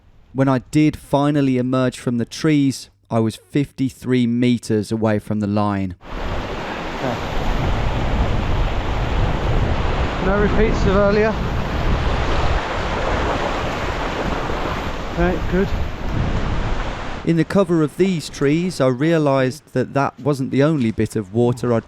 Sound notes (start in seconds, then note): 6.3 stream rushing; 11.8 stream rushing